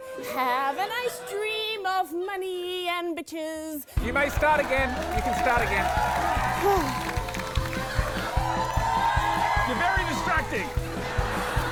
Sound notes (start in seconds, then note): 6.2 applause; 8.4 cheering